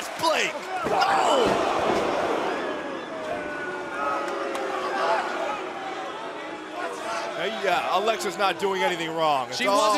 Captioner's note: crowd cheering